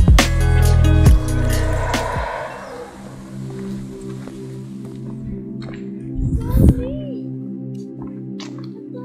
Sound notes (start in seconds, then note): 0.8 howler monkeys Howling